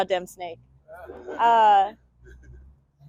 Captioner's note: audience laughs